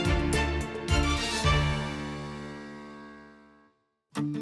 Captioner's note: echoes